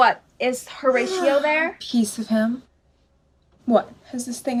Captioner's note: yawning